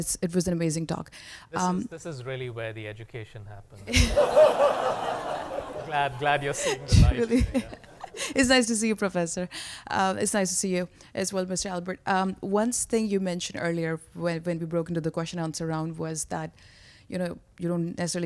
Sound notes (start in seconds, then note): 3.8 laughter